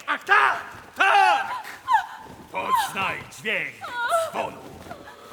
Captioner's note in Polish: krzyki kobiety